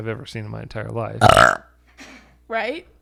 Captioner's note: burps